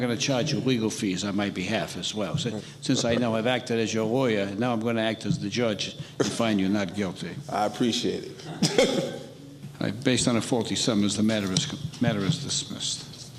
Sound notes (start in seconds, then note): 8.3 laughing